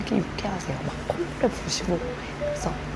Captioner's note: humming while working